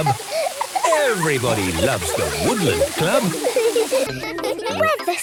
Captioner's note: laughter